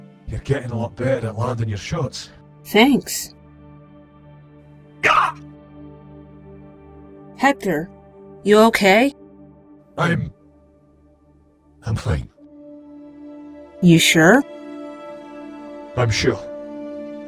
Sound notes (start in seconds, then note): 5.0 cries out in pain